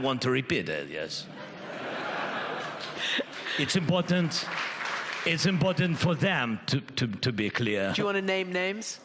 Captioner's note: audience laughs